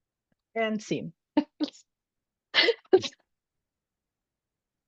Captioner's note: chuckling